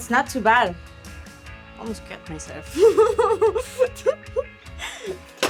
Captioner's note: laughing